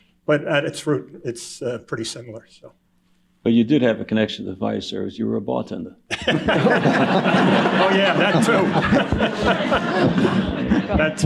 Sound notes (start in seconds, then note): 6.1 laughter